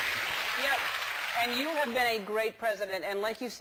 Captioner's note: applause